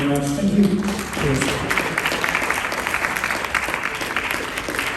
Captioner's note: audience applauding